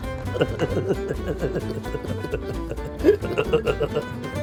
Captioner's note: both laughing; cheerful instrumental music